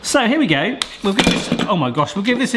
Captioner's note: clattering